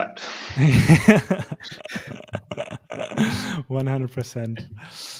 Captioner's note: all laugh